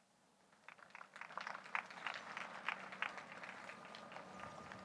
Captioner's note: audience applauds